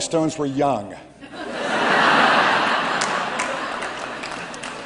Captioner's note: laughter